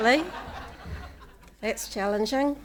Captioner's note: audience laughing